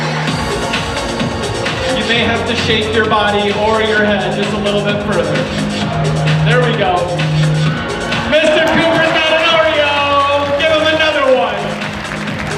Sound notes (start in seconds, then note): 10.0 audience applauds